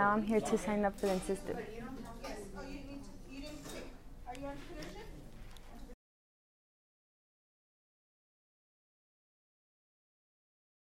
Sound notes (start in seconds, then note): 3.3 class chatting